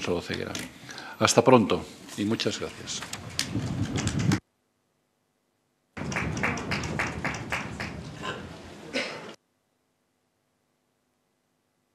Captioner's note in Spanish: Aplausos